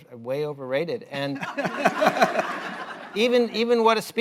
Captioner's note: laughter